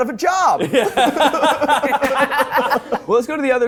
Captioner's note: laughs